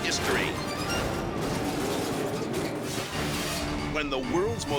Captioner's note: crash clattering